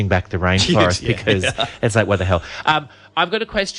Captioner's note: laughs